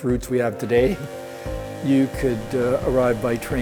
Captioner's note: train whistle